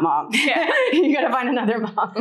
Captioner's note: laughs